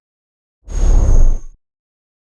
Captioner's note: whooshing